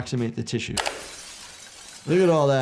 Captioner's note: glass shattering